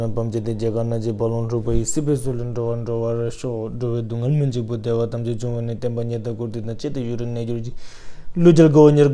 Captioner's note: prays in Tibetan